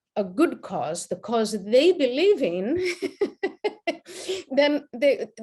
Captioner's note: laughs